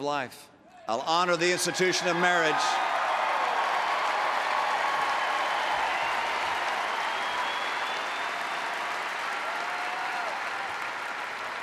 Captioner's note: applause